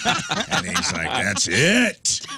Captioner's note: laughing